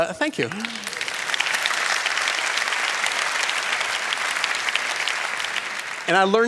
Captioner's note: applause